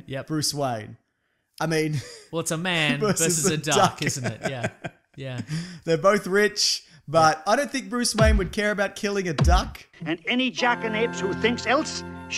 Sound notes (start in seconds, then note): 4.9 laughs